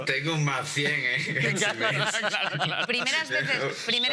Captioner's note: laughing